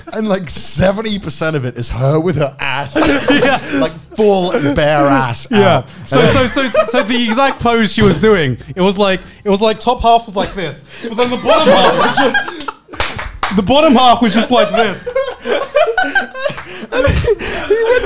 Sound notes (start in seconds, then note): 12.8 laughing; 14.3 laughing continues